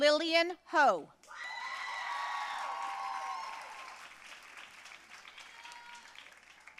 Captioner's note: audience cheering and applauding